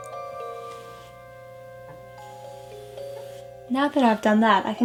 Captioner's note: soft brushing